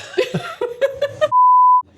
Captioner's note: laughing